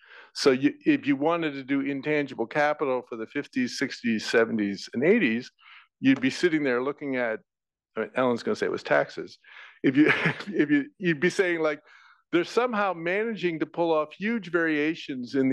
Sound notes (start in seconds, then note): 9.8 laugh